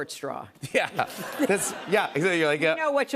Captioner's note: laughter